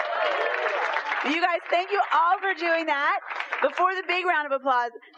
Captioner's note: applause